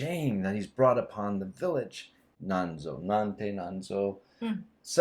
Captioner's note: exclamation